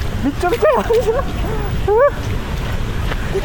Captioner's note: laughs